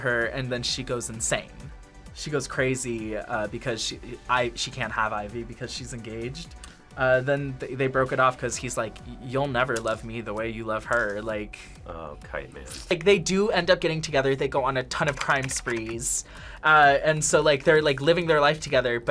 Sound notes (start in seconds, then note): none